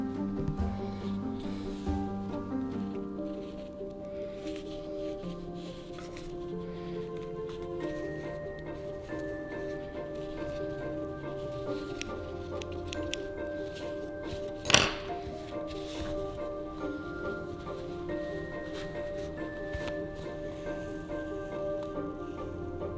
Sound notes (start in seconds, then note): 12.5 scissors clacking; 14.3 scissors clattering; 17.8 classical music; 17.8 fabric rustling